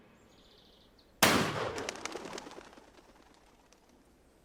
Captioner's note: gunshot